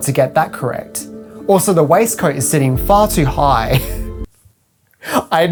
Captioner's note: laughs